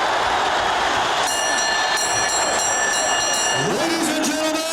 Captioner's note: bell ringing